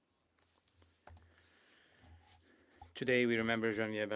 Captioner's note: speaking French